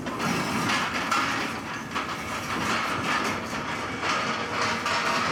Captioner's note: truck clattering